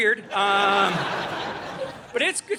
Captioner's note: audience laughing